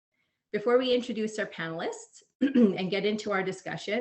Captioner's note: clearing throat